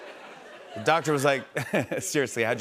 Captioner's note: chuckles